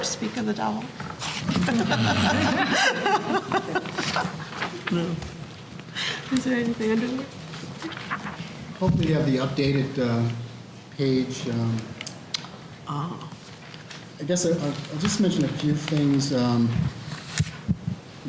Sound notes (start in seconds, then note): 1.5 laughter